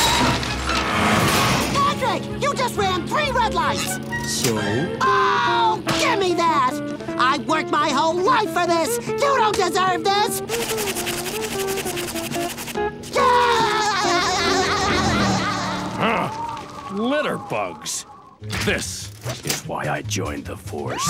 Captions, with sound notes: Patrick, you just ran three red lights! - So? - Oh, give me that! I've worked my whole life for this! You don't deserve this! [laughing] [scoffs] Litterbugs. This is why I joined the force